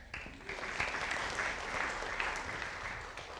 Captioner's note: audience applauding